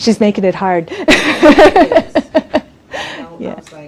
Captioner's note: laughs